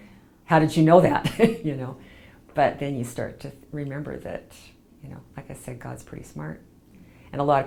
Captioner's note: laughs